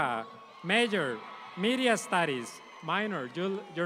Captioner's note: audience applauds